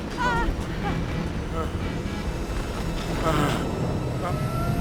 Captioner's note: exhales; groaning